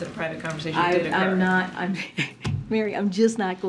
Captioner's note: laughs